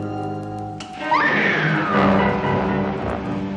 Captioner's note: woman screaming